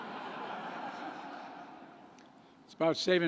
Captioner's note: laughter